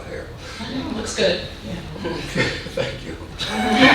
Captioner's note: audience laughing